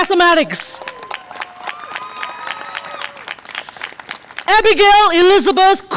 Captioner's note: audience applause and cheer